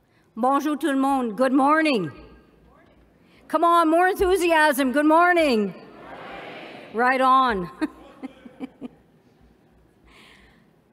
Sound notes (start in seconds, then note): 7.7 laughs